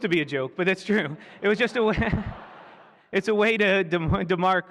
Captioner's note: laughter